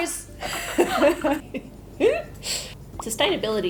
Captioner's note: laughs